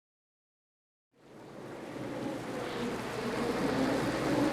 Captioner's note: wind howling